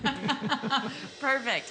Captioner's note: both chuckling